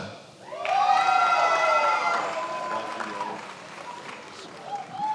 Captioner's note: attendees applauding